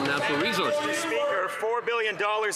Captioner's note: some Applause